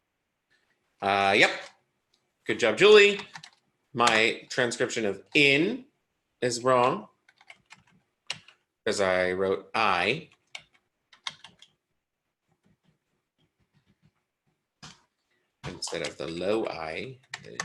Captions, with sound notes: Yup. Good job, Julie. My transcription of in is wrong as I wrote I (keyboard tapping) instead of the low I, 35.